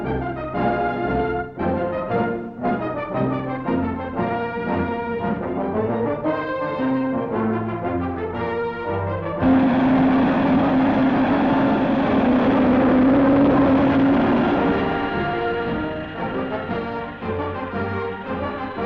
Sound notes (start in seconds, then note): 0.3 heroic music; 9.9 engine roaring